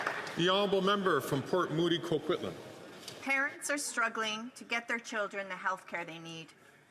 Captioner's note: some Applause